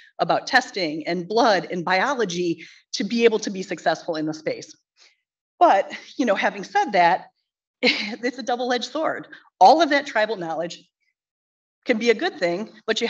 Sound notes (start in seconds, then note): 7.6 chuckles